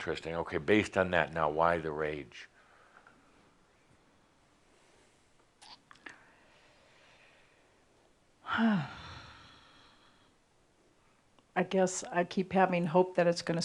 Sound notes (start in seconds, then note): 4.2 pausing slightly and then sighing